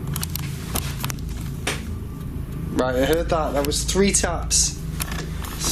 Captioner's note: soft thudding